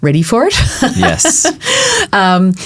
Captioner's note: laughing